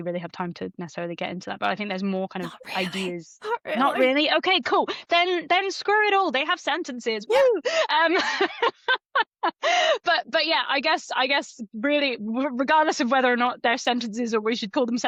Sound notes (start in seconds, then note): 9.8 laughs